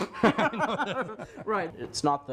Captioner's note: laughter